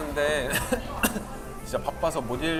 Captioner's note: coughing